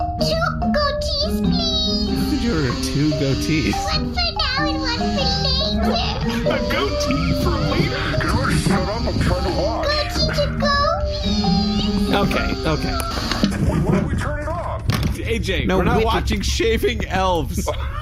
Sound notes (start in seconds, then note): 1.1 razor buzzes; 9.0 pulling up chair